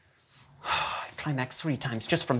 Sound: sigh

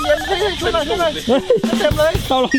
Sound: chuckles

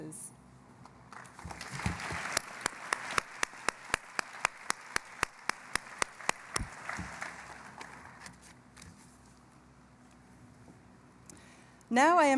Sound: applause

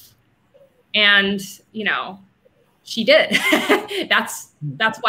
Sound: laughing

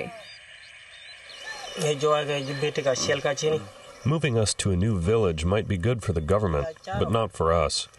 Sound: through translator

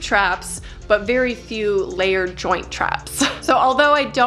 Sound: chuckles

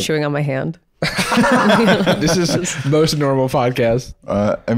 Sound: all laughing

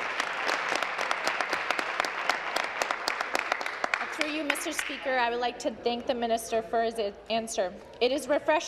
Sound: applause

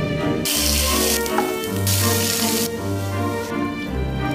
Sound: sizzling

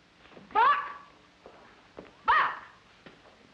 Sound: shouting

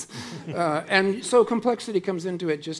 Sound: audience laughing

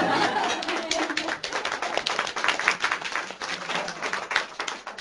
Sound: applause

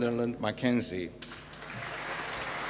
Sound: applause

